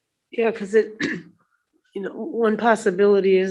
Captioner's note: clears throat